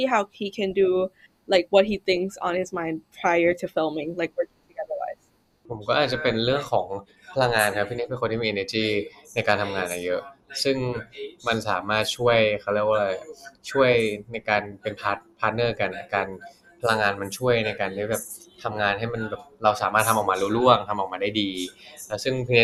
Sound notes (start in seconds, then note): 7.1 answering in Thai